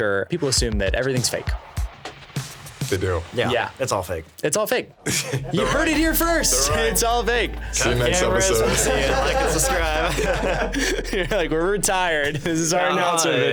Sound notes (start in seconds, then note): 5.0 laughing; 10.3 everyone laughing